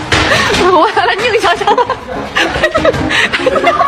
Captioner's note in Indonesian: tertawa